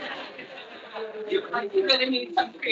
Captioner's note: attendees laughing